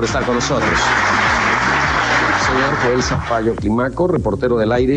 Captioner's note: audience applauding